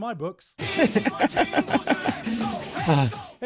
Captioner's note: laughter